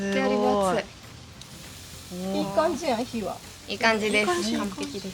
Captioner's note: Sound of grilling meat